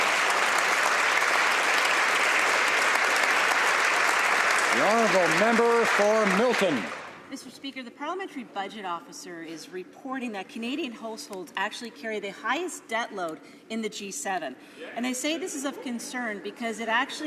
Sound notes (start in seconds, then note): 8.1 some Applause